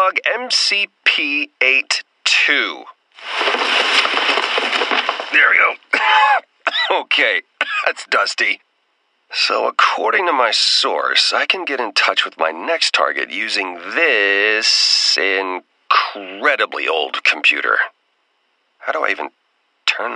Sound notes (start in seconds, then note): 5.8 cough; 5.8 more cough; 7.6 more cough the sequel